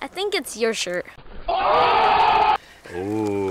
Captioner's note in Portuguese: Gritos